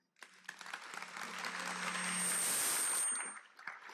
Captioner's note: applause